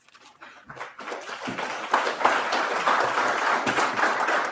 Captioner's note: clapping